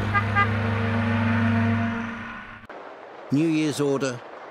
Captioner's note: car horn tooting